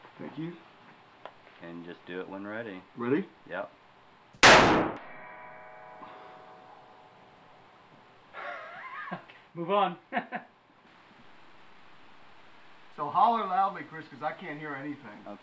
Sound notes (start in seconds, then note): 4.4 gunshot booming; 8.3 laughing